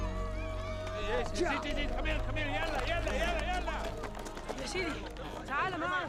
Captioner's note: shouting in arabic; speaks in arabic